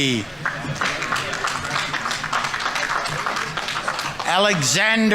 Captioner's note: audience applauding